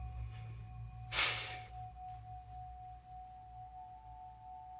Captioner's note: Ally sighs